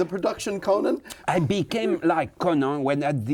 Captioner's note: laughs